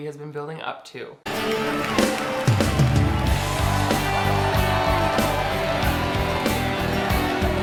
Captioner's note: people applauding; upbeat music